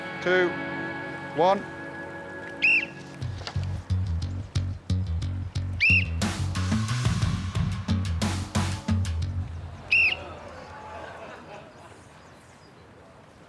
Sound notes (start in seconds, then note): 2.6 blows whistle; 6.6 whistle blows; 9.9 blows whistle